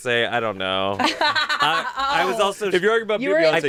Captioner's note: everyone laughs